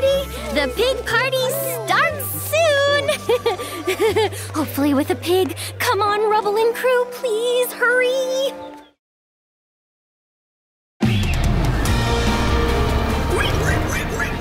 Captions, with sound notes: Welcome to my farm! Hi there, howdy! The pig party starts soon. [chuckling] Hopefully with a pig. Come on Rubble and crew, please hurry!